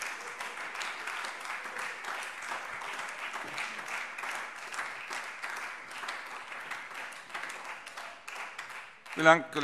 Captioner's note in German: Beifall Freie Demokraten und SPD